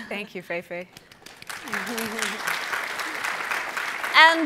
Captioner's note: applause